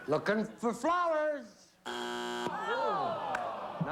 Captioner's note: buzzer